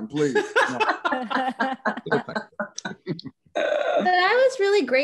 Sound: laughs

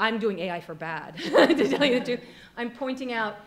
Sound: laughing

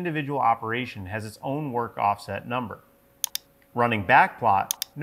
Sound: mouse clicks

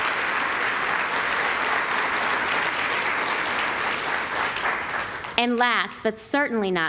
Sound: applause

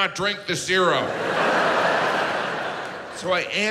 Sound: audience laughs

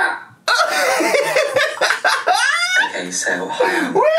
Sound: laughs

